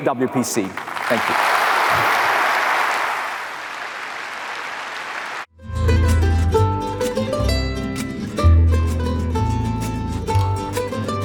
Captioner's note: applause